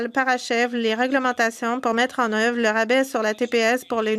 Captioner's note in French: voix de l'interprète